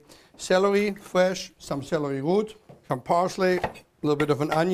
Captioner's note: chopping